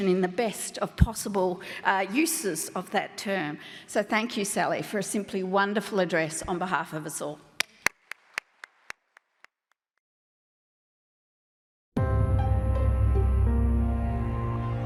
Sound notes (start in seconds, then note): 7.6 clapping; 12.1 upbeat music